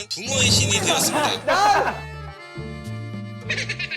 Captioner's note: ※Careful pronunciation※